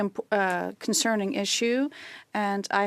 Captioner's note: speaking in French